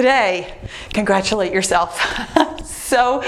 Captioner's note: laughs